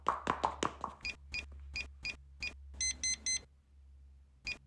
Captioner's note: beeping door